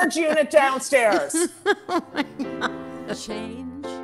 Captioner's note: laughing